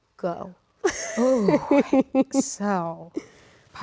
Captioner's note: Rachel laughs